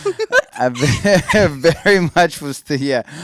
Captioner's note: laughs